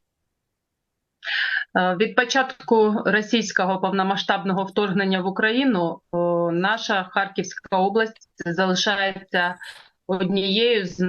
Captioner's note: foreign language